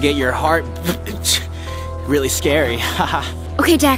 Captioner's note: laughs